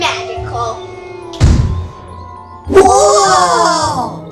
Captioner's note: poof